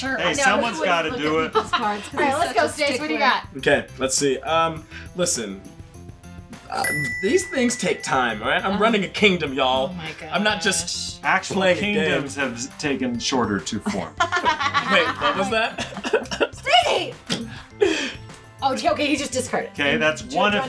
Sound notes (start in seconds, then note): 6.7 ding; 14.1 laughing